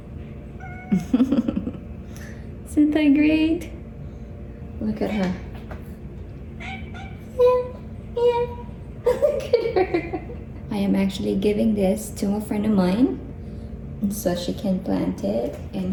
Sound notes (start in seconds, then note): 0.8 chuckles; 9.0 laughing